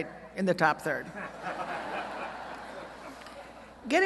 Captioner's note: laughter